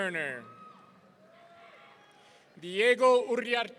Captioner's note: audience cheering